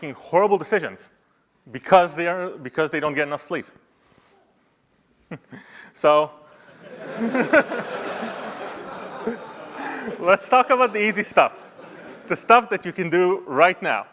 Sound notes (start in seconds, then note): 6.6 laughter